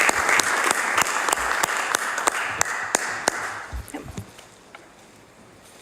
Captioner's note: applause